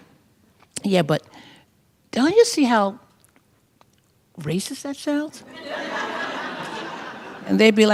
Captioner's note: laughter